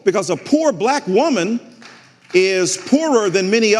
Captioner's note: some audience members applauding